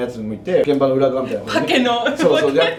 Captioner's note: laughs